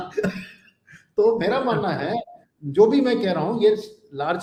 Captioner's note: laughter